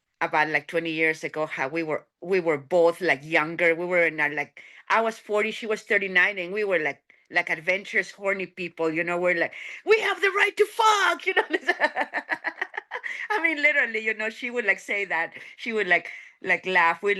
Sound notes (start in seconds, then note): 11.4 laughing